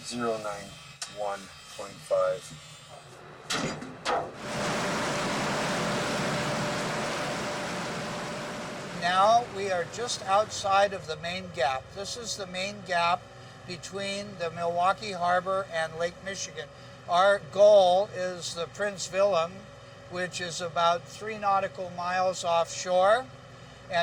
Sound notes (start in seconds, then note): 3.4 metal clanging; 4.4 water rushing